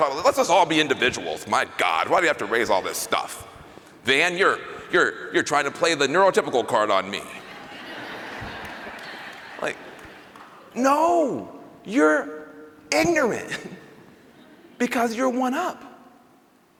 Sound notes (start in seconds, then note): 7.3 laughter